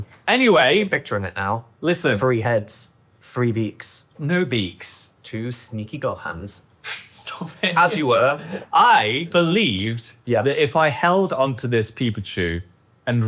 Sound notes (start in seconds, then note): 7.4 chuckles